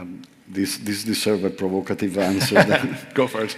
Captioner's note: chuckles